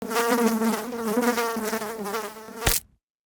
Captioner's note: fly buzzing; fly splatting